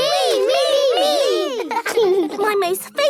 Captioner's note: laughing